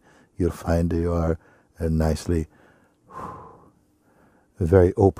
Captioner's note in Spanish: exhala profundamente